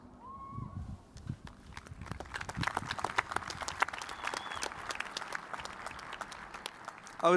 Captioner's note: applause